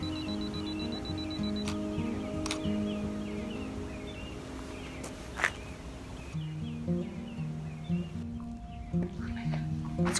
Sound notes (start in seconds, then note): 0.0 camera beeping quickly; 2.4 shutter snaps